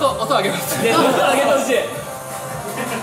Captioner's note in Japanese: 笑い